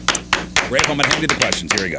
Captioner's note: clapping